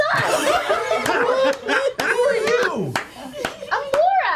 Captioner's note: laughter